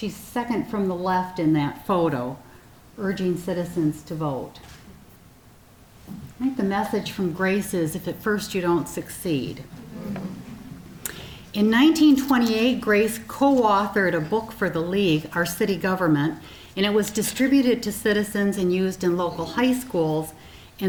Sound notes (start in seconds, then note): 9.7 sounds of approval from audience